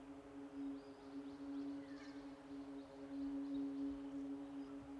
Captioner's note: birds chirping